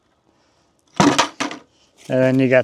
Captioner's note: bucket rattling